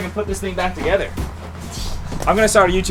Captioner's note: wind